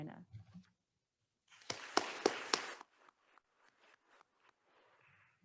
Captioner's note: attendees applauding